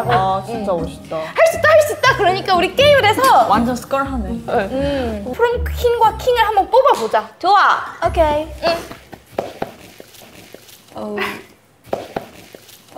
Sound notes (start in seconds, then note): 10.1 smack